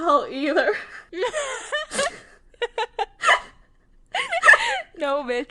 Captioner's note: both laughing